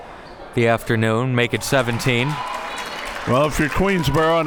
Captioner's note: audience cheering